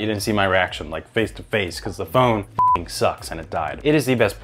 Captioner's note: beep